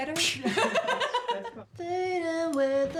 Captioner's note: laughs